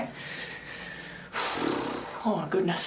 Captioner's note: sighing